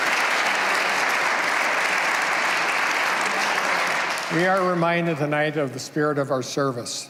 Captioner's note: applause